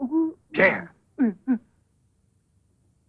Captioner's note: mumbling affirmatively